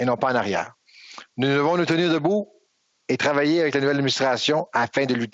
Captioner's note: speaking French